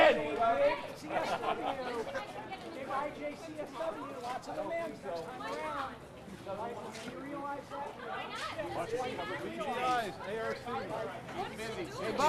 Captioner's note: crowd noise